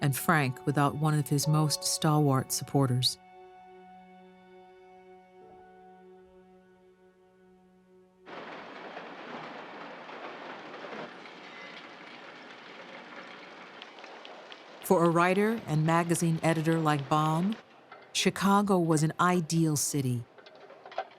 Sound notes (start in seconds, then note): 8.3 printing presses clacking